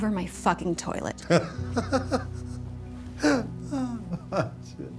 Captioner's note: Tommy laughs